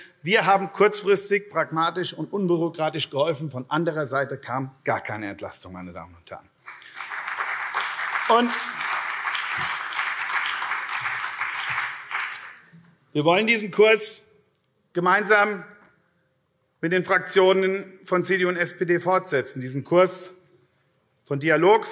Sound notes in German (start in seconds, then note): 6.6 Beifall CDU